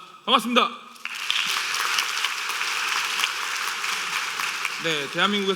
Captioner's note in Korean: 박수